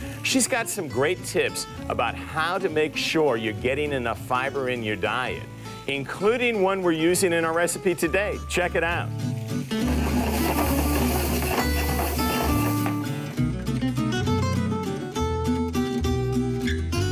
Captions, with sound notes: She's got some great tips about how to make sure you're getting enough fiber in your diet. Including one we're using in our recipe today. Check it out. (metal scraping) (guitar picking music)